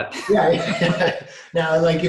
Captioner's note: laughing